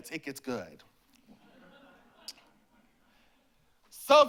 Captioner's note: laughter